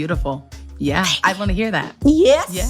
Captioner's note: whisper